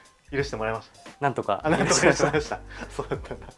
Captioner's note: laughs